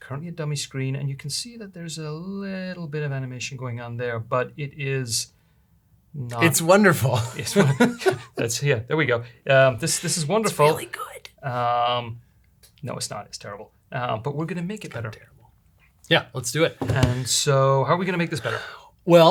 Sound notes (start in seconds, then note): 7.1 laughs; 7.1 chuckles; 15.0 whispering